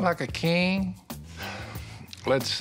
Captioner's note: sighs